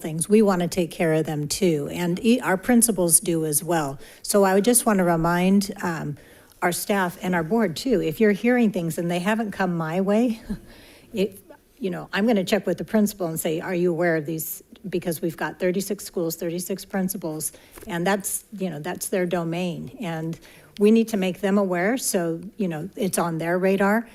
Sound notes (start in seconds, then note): 10.3 chuckling incredulously